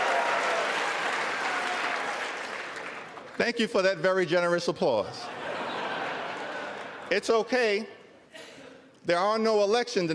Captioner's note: cheers and applause